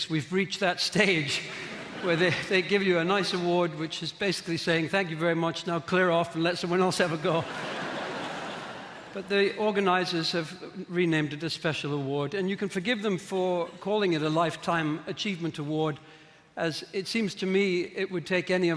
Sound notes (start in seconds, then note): 7.2 audience laughing